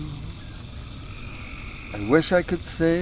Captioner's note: crickets